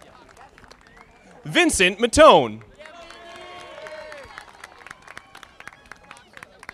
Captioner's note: audience applauding